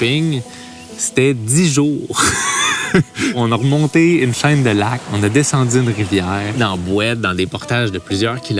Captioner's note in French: rires